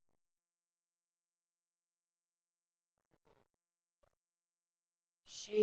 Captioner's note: silence